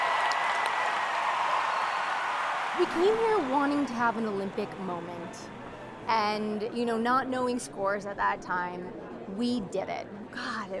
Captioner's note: cheers and Applause